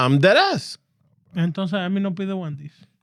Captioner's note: speaking Foreign Language